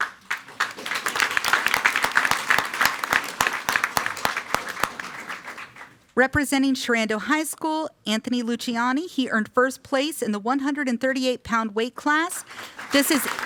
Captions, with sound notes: (everyone applauding) Representing Sherando High School. Anthony Luchiani. He earned first place in the 138 pound weight class.